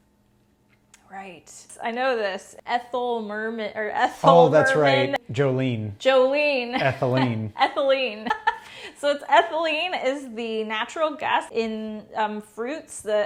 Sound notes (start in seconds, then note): 6.8 laughing